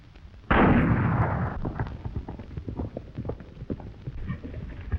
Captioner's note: gunshot banging